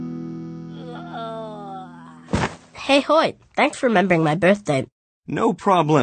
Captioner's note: straining; thud